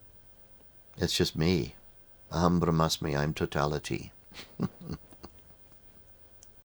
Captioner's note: giggles